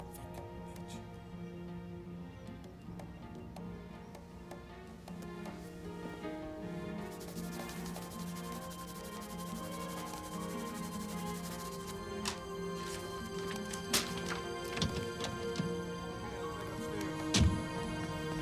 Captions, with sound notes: Fuckin' bitch. (pencil scratching) (car door clicks open)